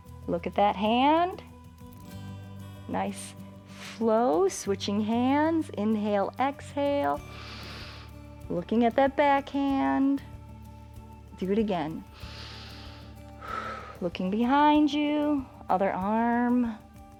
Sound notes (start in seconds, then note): 7.2 inhales; 12.1 inhales and exhales